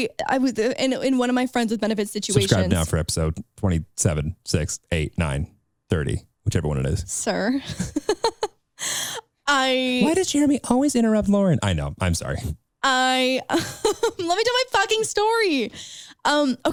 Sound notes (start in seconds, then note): 7.6 laughs; 13.4 laughing